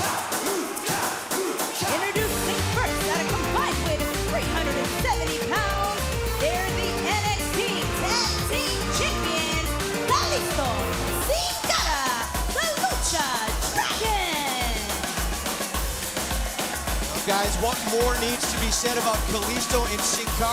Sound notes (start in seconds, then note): 2.2 crowd cheering